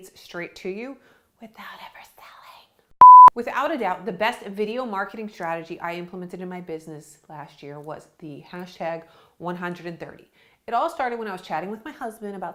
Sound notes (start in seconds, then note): 3.0 beep